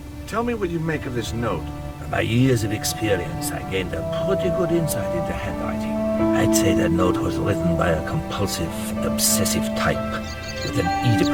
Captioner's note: scoff